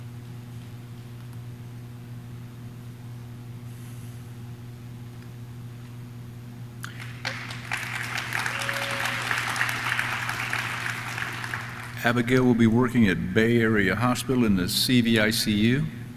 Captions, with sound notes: (audience claps) (audience cheers) Abigail will be working at Bay Area Hospital in the CVICU.